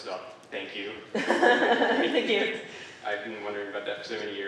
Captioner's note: laughing